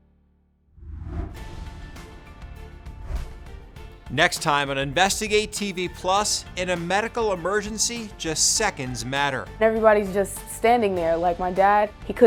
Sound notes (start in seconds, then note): 0.9 whooshing; 1.1 upbeat music